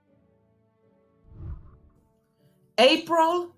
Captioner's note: whooshing